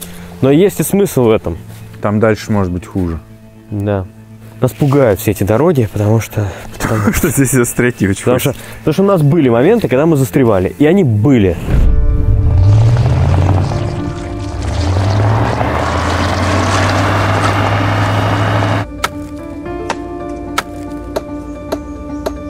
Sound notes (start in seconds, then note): 11.9 running engine; 18.8 beating